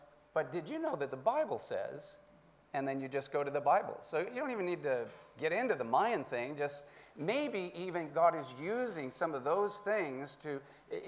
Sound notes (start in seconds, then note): none